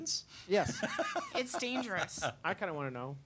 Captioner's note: laughing